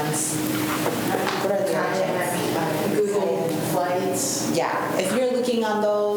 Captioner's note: students chatter